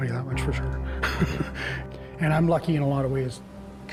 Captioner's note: laughs